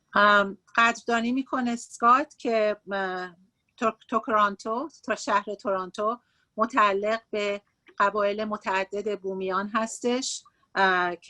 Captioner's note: speaking Farsi